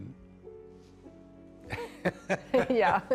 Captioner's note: laughs